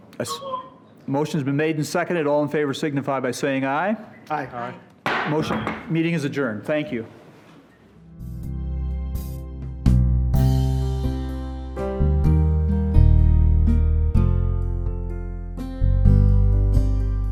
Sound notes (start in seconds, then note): 5.0 gavel bangs; 8.6 mellow guitar music